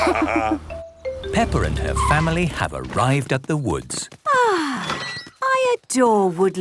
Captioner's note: laughter; contented sigh